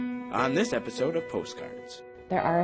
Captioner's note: voiceover